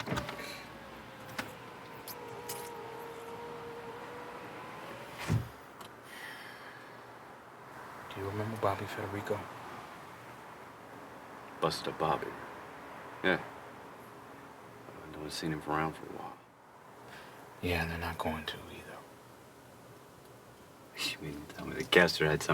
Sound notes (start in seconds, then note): 0.1 window buzzing; 5.7 Ford sighing